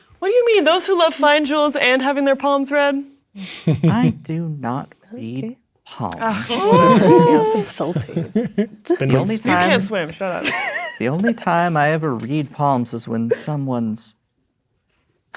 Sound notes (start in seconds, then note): 6.3 players laughing; 9.1 laughing